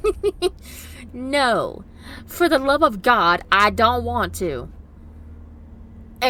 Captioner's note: laughs